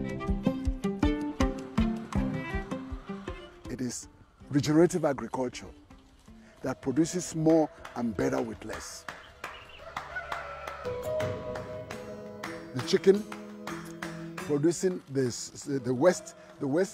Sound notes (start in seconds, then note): 9.7 rooster crowing